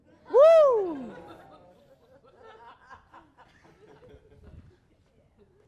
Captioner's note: one big "phewwwww." + nervous laughter and 'ooohs' from audience